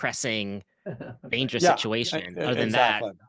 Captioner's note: chuckles